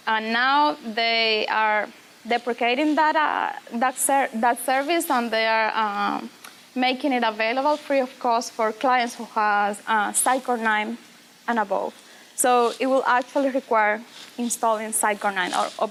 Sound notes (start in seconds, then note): none